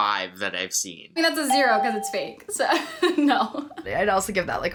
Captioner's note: laughs